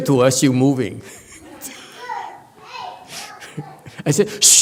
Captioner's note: laughs